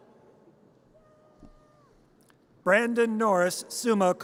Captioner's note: audience cheers